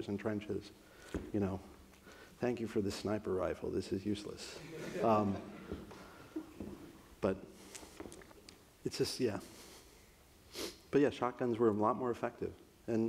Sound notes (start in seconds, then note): 4.6 audience laughs